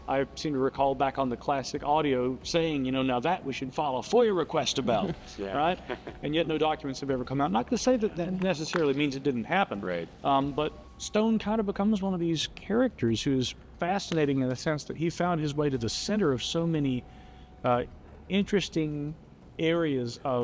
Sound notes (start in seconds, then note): 5.5 chuckles